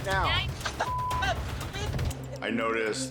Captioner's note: beep